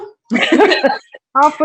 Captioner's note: chuckles